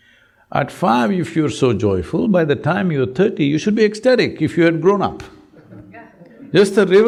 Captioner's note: laughter